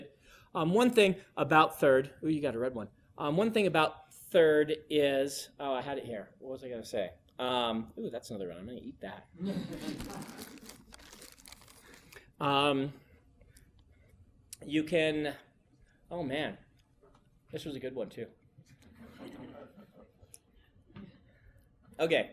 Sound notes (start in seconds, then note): 12.9 students laugh